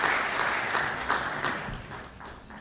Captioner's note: applause